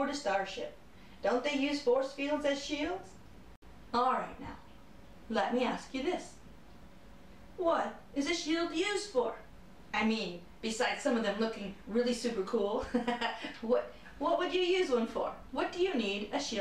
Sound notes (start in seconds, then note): 12.8 laughter